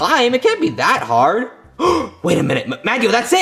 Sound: gasping

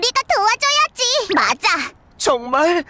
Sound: Tayo giggling

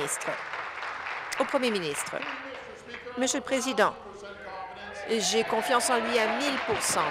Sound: applause

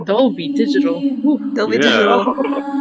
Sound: laughter

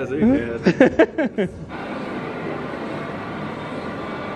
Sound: laughs

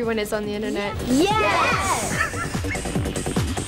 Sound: laughing; techno music

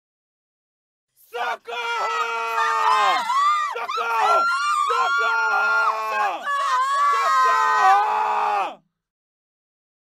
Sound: sound of cry for help

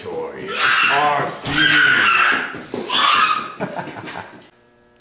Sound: screaming; laughing

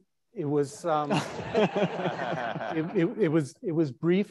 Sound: audience laughing

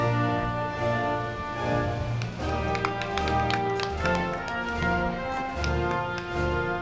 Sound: crowd clapping; band music

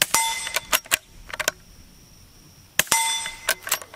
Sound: gun reloading and metal ping

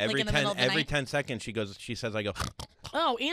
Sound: snort

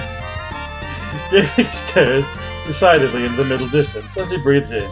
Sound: laughing

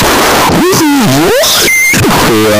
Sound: screaching noise

